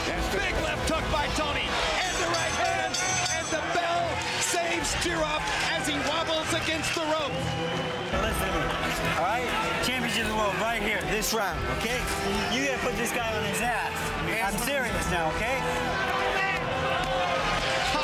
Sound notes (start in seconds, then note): 1.9 bell dings